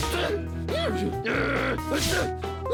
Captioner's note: exclaims irritably